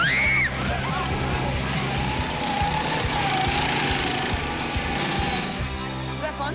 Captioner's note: screams